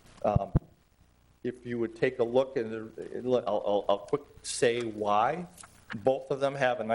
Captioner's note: stammering